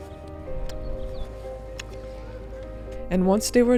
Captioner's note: lips smacking